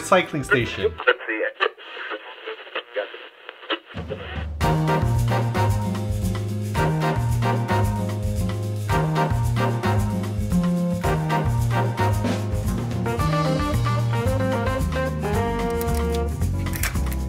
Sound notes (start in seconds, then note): 0.9 static; 4.6 upbeat music